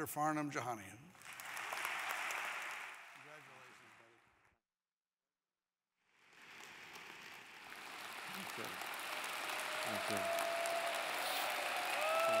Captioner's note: applause